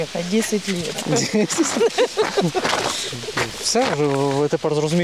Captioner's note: laughing